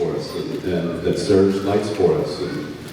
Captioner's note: off mic